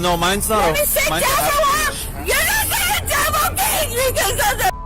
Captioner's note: suspect shouting